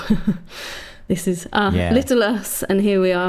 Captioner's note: laughs